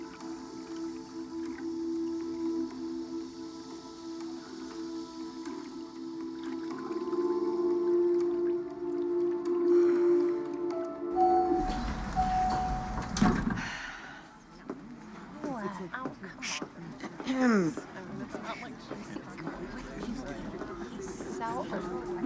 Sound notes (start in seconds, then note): 9.3 sighs; 11.2 elevator dings; 17.0 clears throat; 18.9 chatter continues